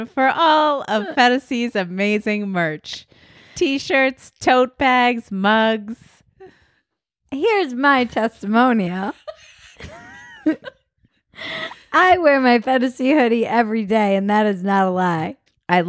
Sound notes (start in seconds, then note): 9.1 laughing